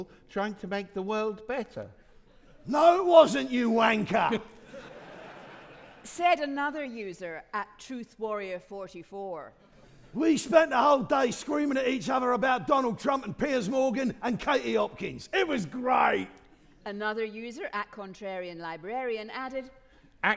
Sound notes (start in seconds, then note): 4.6 audience laughing